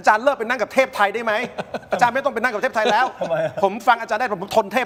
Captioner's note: laughs